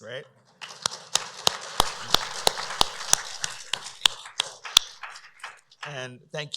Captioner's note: applause